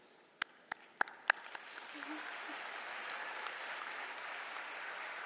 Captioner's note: applause